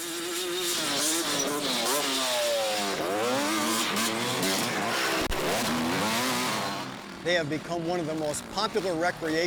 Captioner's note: vehicle sounds